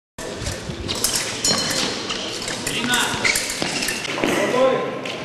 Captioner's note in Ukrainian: звук ударів клинків